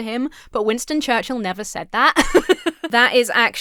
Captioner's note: laughs